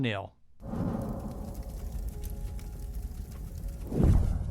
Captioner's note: torch blazing